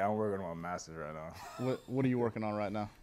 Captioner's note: chuckle